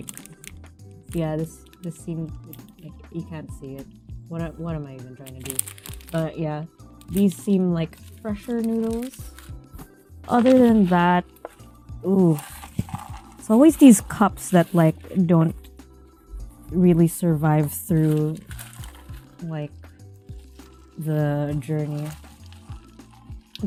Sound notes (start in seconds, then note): 12.0 shaking noise